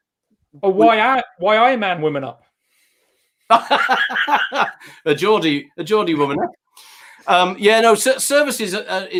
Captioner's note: laughs